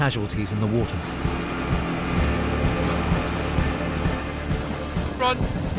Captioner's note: tense music continues; motor whirring